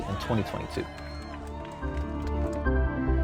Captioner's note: crowd cheering and clapping